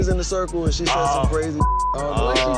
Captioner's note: beep